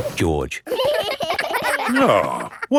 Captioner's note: giggling